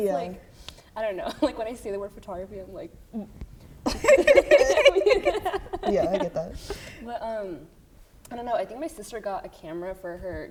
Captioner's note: laughter